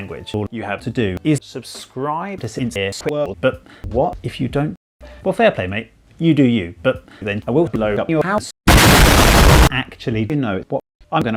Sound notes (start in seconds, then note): 8.6 very loud explosion